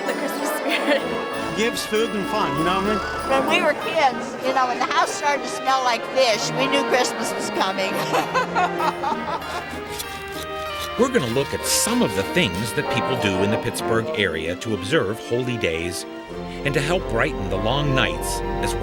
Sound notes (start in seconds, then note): 4.6 laughs